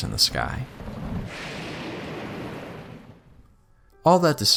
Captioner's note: slight rain and thunder sounds